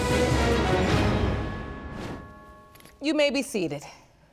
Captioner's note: none